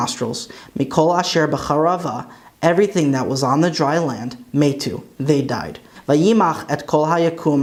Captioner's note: Hebrew